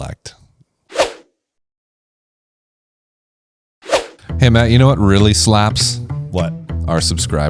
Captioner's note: swoosh; upbeat music